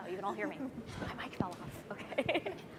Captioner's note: laughing